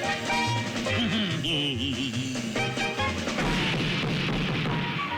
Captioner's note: bonking